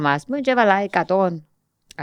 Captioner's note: none